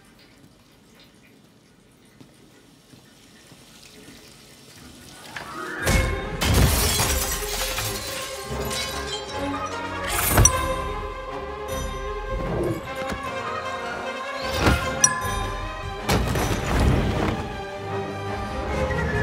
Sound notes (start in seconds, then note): 0.0 water running; 6.3 glass breaking